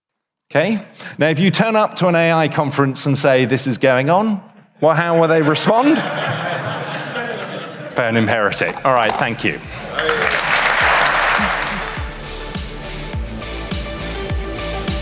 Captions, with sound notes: Okay, now if you turn up to an AI conference and say this is going on, - well, how will they respond? [audience laughs] Burn him, heretic. All right, thank you. [applause] [outro music]